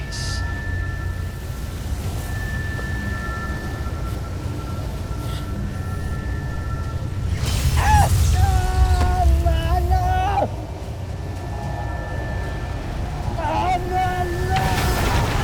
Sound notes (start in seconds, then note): 0.2 evil energy whoosh & crackle; 0.2 ominous music playing; 7.1 grunts; 7.1 powerful whoosh-crackle; 7.4 screams; 10.8 tense music playing; 13.6 powerful whoosh-crackle